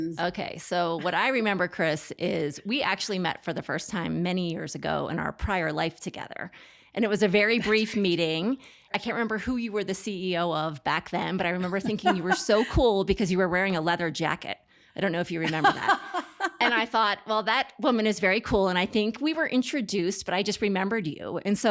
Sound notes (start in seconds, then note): 11.2 laughs; 15.4 laughs